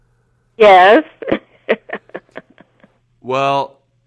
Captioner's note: laughter